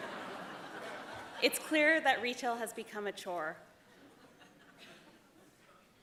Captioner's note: laughter